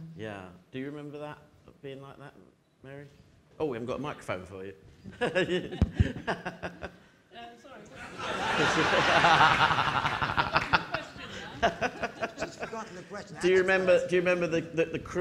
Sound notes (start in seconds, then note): 5.4 laughing; 8.0 audience laughing